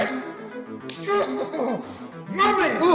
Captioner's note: excited celebration noises